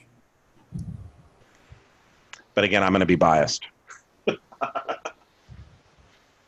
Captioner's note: laughs